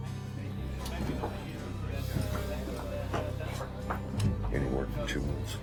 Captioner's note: background people chattering